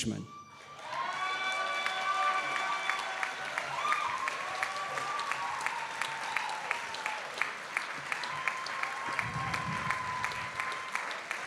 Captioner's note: audience screaming and applauding